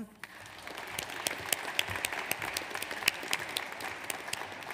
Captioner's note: audience applauds